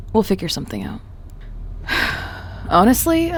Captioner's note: sighs